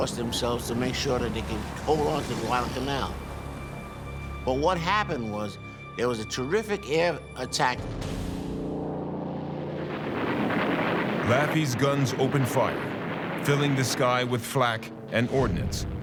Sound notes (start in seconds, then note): 7.9 airplane engine rumbling